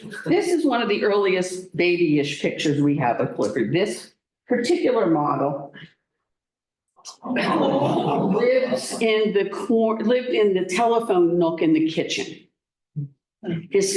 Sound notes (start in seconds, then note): 0.0 laughter; 6.9 gasping